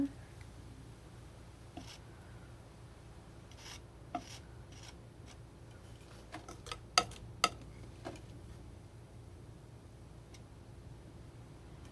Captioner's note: scratching